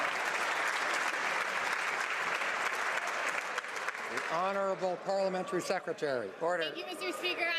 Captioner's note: some Applause